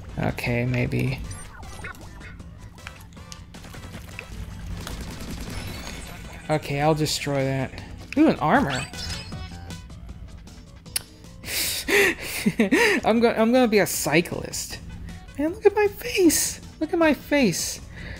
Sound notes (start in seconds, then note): 5.3 chime; 8.9 shk-ching!; 11.8 sniggers and giggles